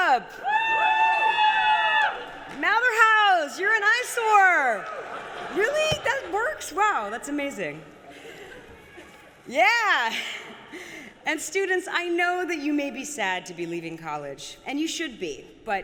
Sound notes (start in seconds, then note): 0.1 applause; 4.9 laughter